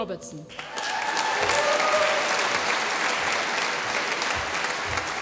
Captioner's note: applause